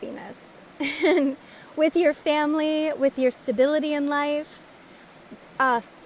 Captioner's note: laugh!